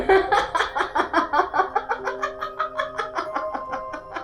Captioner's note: manic laughing